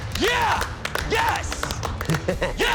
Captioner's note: chuckles